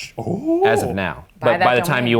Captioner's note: Professor gasping